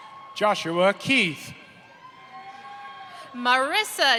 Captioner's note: applause